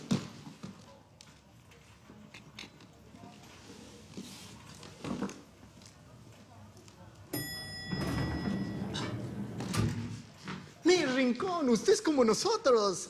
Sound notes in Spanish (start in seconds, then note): 7.3 Campanilla del elevador